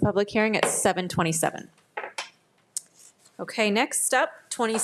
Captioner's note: gavel thuds